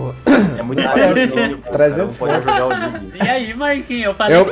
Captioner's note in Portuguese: risos